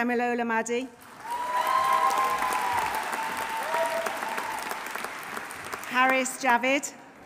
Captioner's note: audience applauding; audience cheering